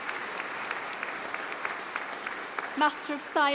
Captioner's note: applause